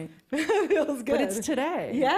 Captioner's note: laughs